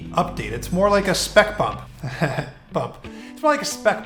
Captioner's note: laughs